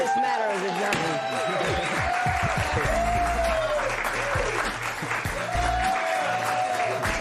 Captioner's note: cheers and applause